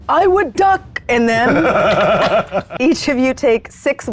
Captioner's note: cackling